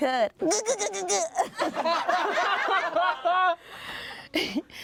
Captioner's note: everyone laughs